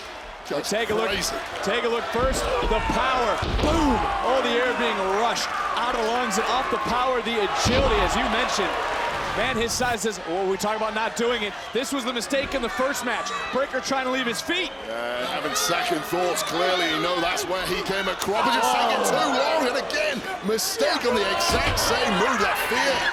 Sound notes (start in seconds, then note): 18.8 audience gasping